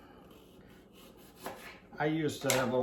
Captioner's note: knife slashes